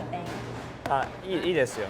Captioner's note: speaks Japanese